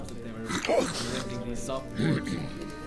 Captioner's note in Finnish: ihmiset juttelevat, nuotio rätisee; rykäisee; röhähtää